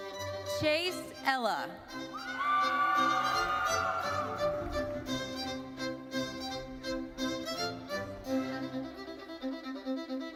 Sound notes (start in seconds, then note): 2.1 audience cheering; 5.7 bright thoughtful music continues